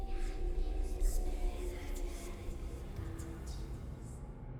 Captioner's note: eerie whispering